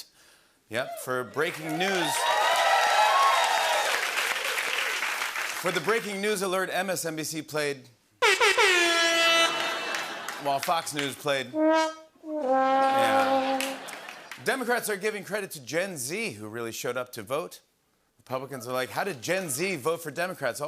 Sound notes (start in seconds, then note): 0.8 cheers and applause; 8.2 rasta horn blares; 11.5 sad trombone plays